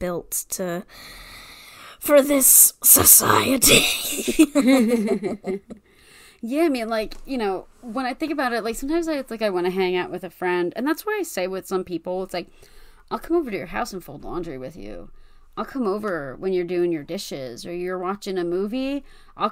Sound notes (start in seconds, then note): 3.7 laughs